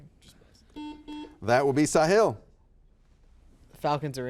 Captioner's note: buzzer buzzes